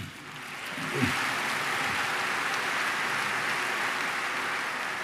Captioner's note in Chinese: Applause; 掌聲